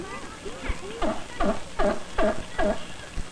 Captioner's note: monkeys vocalizing